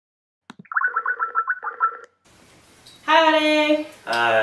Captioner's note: dialing